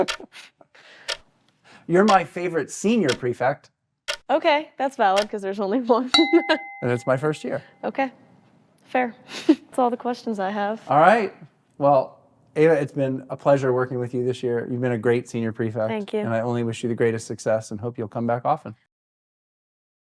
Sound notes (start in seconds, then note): 6.1 timer dings